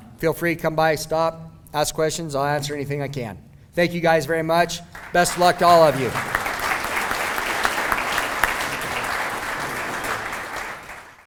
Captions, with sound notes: Feel free to come by. Stop, ask questions. I'll answer anything that I can. Thank you guys very much. Best of luck to all of you. [applause]